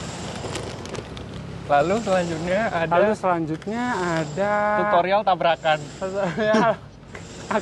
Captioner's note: wkwkwkwk